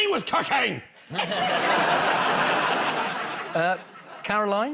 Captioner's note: laughter